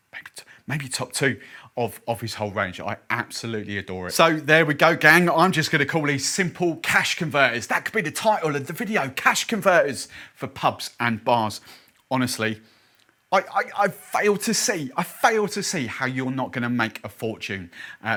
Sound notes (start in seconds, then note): none